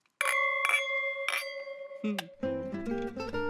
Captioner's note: glasses clink; upbeat string music